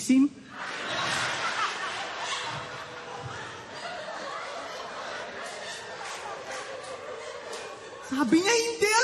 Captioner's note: laughter